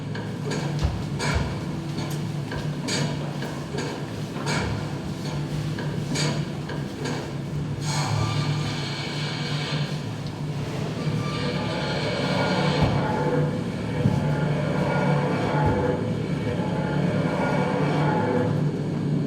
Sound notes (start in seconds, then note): 0.0 machinery clanging; 7.8 steam whistling